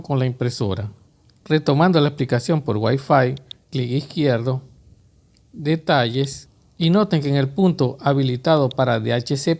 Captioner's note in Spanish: clic izquierdo